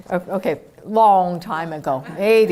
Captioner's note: none